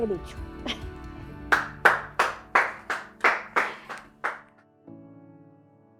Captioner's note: applause